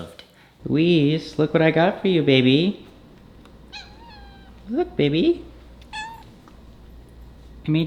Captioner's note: cat meows; cat meows again